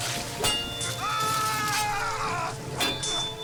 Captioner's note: Artemir yells